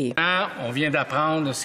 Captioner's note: speaking French